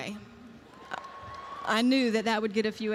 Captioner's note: audience cheers